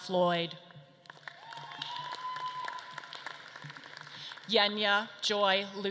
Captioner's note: audience claps and cheers